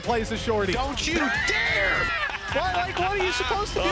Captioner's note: heavy laughing